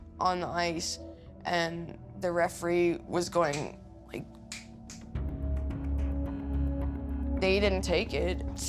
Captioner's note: snapping